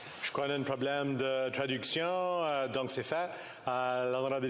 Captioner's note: speaking FRENCH